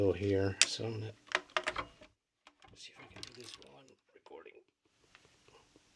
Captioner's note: said quietly